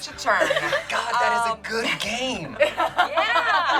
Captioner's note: group laughs